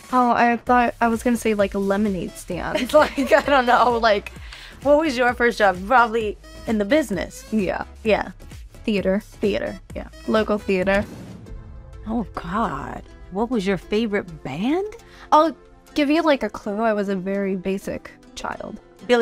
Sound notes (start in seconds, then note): 2.7 chuckling; 10.9 screen whooshing